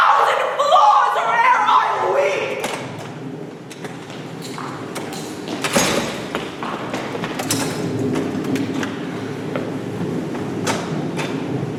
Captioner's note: door opens offscreen. Storm grows